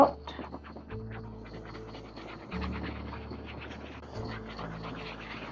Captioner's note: sound of torch